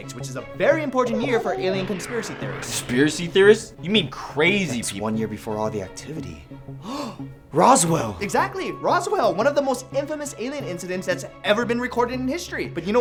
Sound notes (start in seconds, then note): 6.8 le gasp